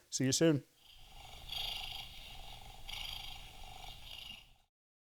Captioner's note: ominous purring